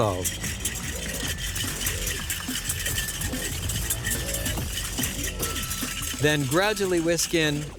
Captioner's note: whisking